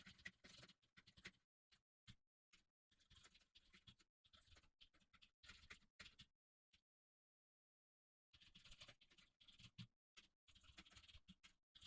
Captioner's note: typing sounds